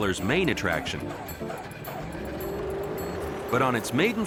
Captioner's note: motor whirring